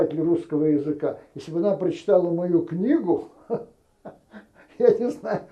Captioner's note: laughing